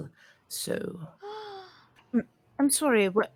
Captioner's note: gasps